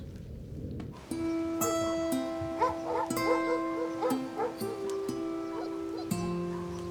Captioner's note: gentle music; dogs barking